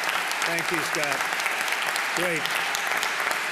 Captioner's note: applause